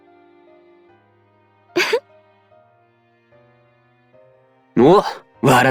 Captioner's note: laugh